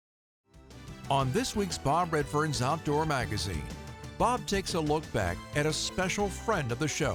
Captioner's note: voiceover